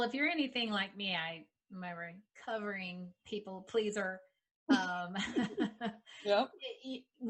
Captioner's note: laughing